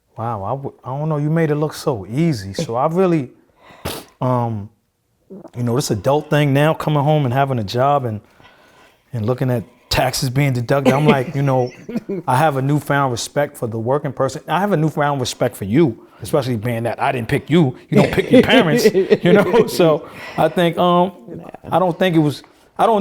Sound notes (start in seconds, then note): 10.8 laughing; 18.0 laughing; 20.9 laughing